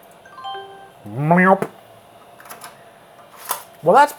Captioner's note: computer chiming; imitating computer chiming